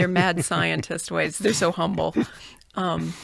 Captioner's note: laughs